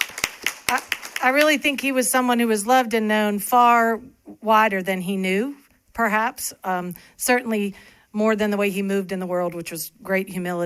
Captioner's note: applause